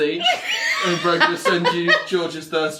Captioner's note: laughs